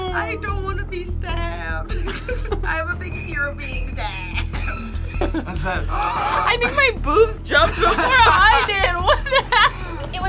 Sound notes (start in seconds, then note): 1.9 laughs; 5.8 gasps; 9.7 laughs